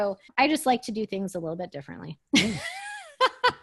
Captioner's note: laughs